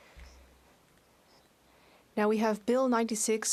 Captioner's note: speaking French